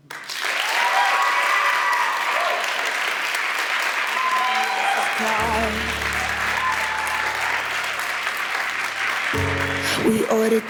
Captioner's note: audience Cheers and Claps